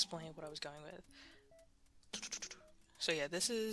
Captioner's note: silence